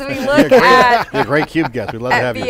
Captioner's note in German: lacht